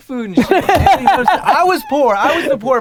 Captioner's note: Gary laughs